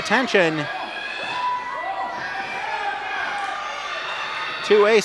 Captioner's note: audience yells